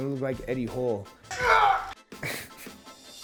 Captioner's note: groaning; laughing